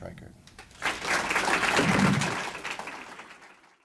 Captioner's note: clapping